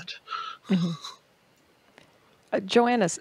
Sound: laughs

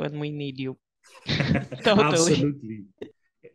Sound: hosts laughing

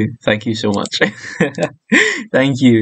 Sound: laughs

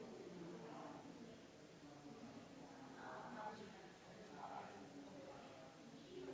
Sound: people chattering distantly continues

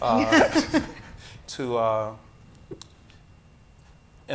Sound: panels laughing

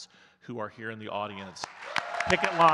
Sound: audience claps and cheers

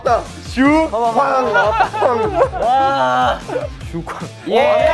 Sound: all laughing

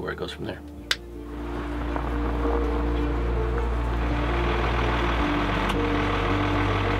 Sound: upbeat music; engine running

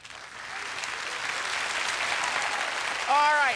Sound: applause

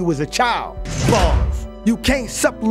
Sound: bars slamming

